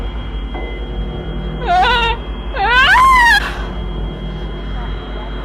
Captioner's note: screams